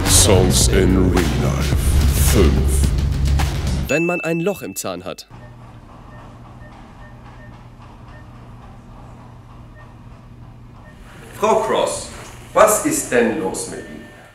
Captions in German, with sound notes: Songs in Realife 5 Wenn man ein Loch im Zahn hat. *Piepen* Frau Cross Was ist denn los mit Ihnen?